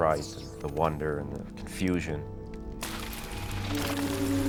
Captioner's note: shattering; magical ringing